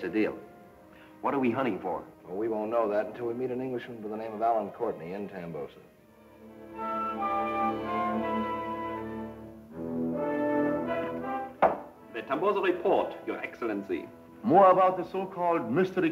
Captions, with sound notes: What are we hunting for? - Well we won't know that until we meet an Englishman by the name of Allen Courtney in Tambosa. (suspenseful music) (heels click) - The Tambosa Report your Excellency - More about the so-called Mystery Queen of the Jungle?